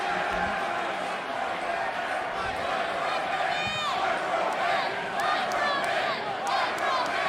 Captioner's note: audience chanting Microman